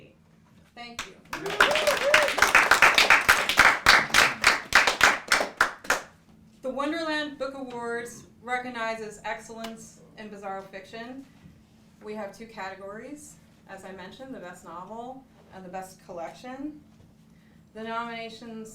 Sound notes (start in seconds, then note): 5.0 applause